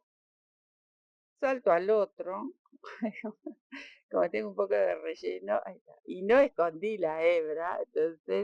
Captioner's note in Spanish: risas